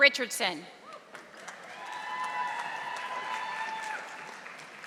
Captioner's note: audience applauding